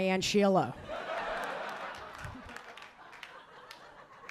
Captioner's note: audience laughing